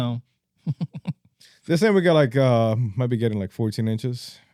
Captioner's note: laughing